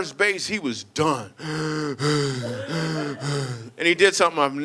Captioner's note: heavy breathing